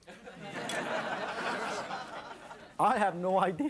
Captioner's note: audience laughs